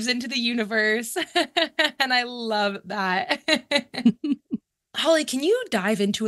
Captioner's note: laughs